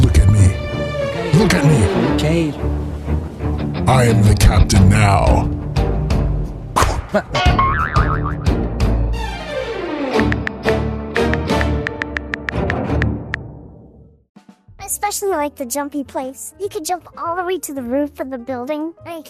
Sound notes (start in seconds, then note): 7.4 air popping sound, cartoony bonk; 10.4 dramatic music ends; 11.8 mobile phone tapping sound